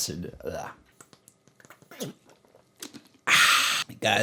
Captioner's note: sound: Drinking Water